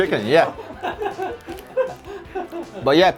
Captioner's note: laughing with crew